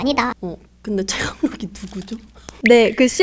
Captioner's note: laughs